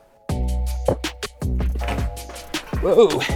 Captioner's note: plastic crinkling